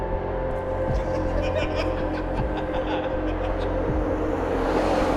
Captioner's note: laughing